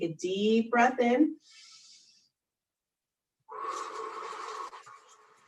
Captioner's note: deep breath